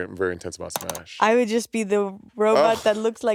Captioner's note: mouse clicking